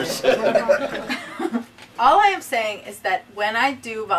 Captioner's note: laughing